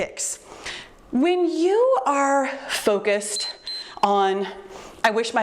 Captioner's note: timer beeps